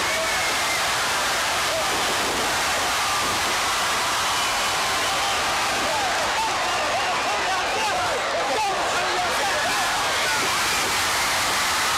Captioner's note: crowd chatter; crowd cheering